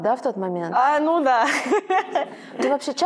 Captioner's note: laughs